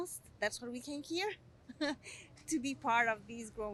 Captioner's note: laugh